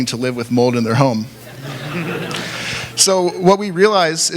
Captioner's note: laughter